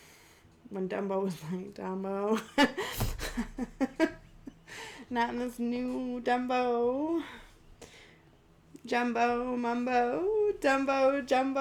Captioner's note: laughs